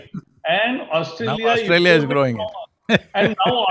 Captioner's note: Sadhguru laughs